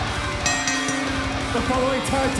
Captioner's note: fans chanting; bell ringing